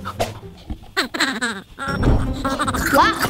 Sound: Red giggling

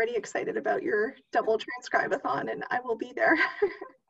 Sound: laughter

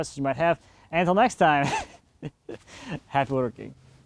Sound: laughs

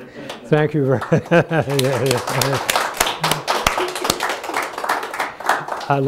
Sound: clapping of hands

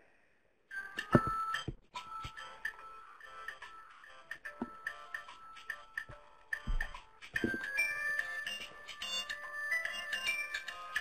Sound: cell phone ringing

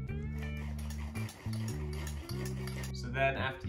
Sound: sawing

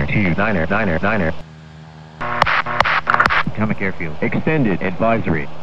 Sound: 3 clicks

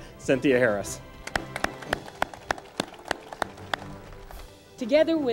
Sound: audience applauds

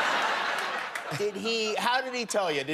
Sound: laughter

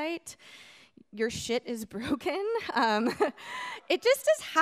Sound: laughs

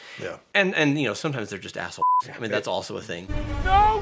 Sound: beeps

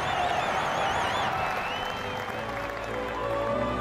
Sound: audience cheering and applauding; elated choral music continues

